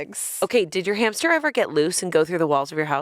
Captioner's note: none